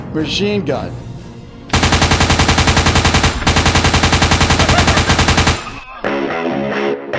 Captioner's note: gun shooting sounds